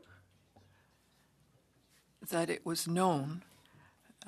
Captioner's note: speaking French